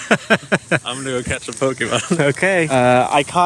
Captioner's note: laughs; laughing